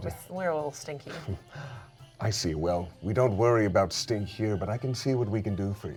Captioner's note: chuckles